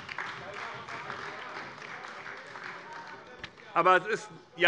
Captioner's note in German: Heiterkeit und Beifall bei der SPD und der LINKEN